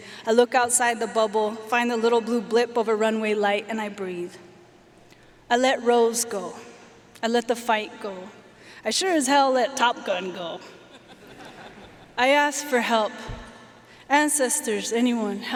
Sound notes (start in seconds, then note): 10.9 audience laughing